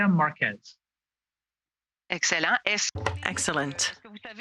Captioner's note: speaking French